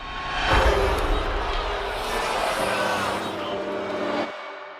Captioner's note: group booing